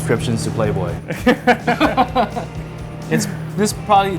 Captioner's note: laughing